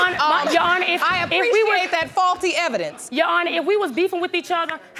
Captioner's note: audience laughing